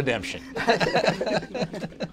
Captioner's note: laughter